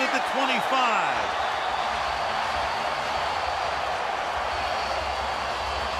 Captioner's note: cheering